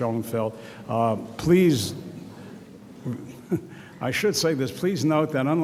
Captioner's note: laughs